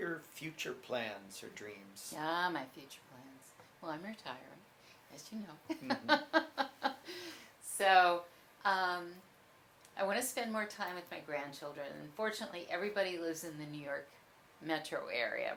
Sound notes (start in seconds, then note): 5.7 laughs